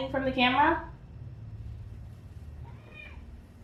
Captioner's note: loud meow